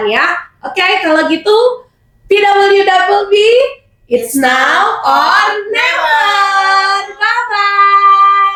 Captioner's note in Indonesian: berteriak